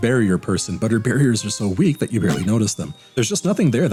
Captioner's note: sounds of a barely noticed detonation charge